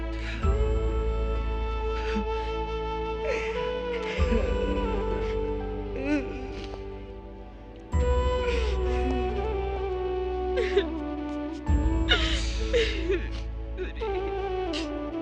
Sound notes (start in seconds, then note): 10.6 crying